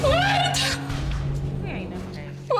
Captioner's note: crying